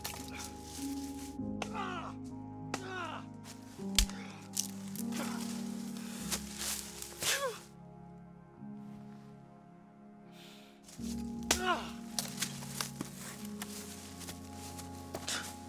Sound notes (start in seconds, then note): 3.4 branch cracking